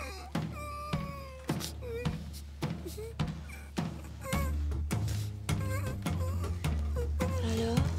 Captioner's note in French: Gémissements